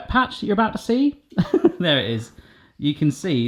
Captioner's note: laughing